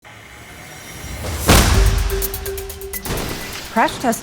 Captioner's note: car crashes